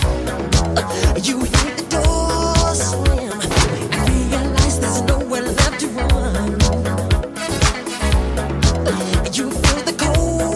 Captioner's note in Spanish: ooh, ooh